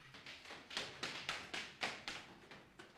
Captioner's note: light footsteps